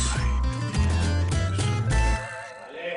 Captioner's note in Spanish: Lucas murmura